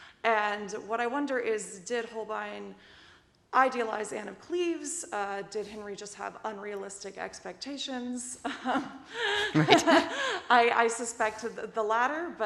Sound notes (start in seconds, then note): 9.2 laughs